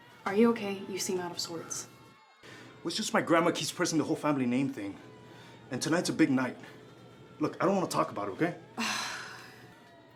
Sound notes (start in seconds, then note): none